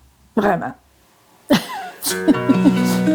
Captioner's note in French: rire